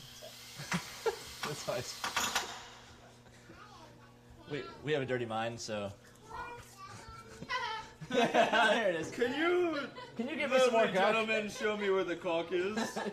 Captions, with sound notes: [LAUGHS] THAT'S HIGH SCHOOL. WE HAVE A DIRTY MIND SO... -[GIGGLES] -[LAUGHS] THERE IT IS. -CAN YOU... -CAN YOU GIVE US SOME MORE CAULK. GENTLEMEN, SHOW ME WHERE THE CAULK IS?